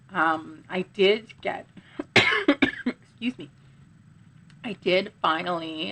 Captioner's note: coughs